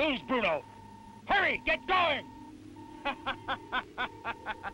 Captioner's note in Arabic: يضحك